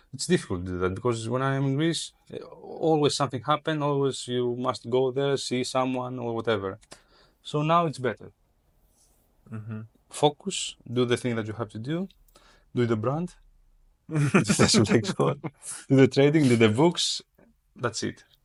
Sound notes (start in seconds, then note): 14.1 laughs